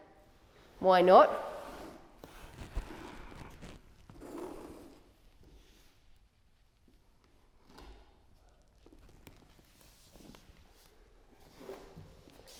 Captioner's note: rustling sounds